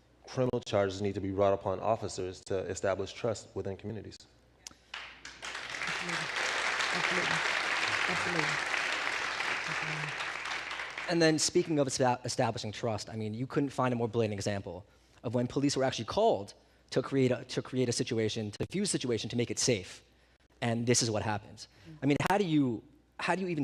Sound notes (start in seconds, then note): 7.6 applause